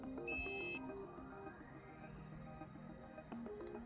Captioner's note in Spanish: bip del aparato